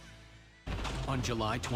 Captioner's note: thunder sound